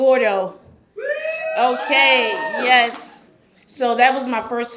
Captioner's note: audience cheers